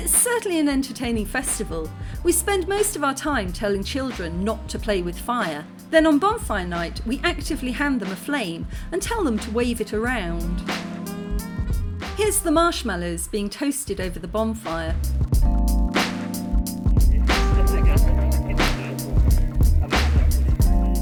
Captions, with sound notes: It's certainly an entertaining festival. We spend most of our time telling children not to play with fire, then on Bonfire Night we actively hand them a flame and tell them to wave it around. Here's the marshmallows being toasted over the bonfire. [laughter and background chatter]